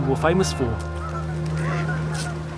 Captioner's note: birds squawking